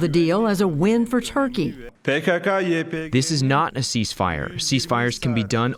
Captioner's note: through translator